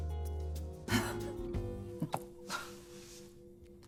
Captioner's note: laughing